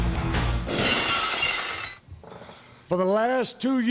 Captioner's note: glass shatters